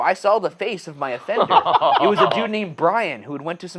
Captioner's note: laughing